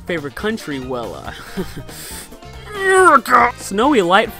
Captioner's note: chuckles